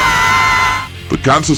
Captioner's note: zombie snarl